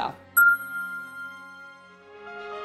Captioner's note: bell chimes